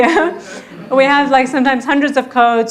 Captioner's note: audience laughing